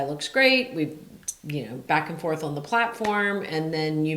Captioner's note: claps